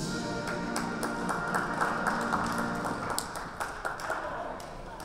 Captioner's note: audience applauds